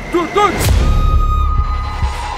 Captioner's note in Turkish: Çığlık